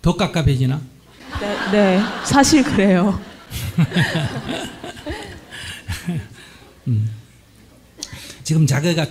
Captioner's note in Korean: 청중 웃음; 질문자와 스님 웃음